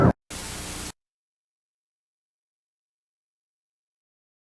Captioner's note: static hissing